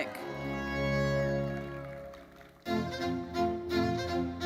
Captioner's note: audience applauding; lively uplifting music